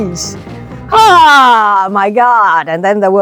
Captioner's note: Michelle exclaiming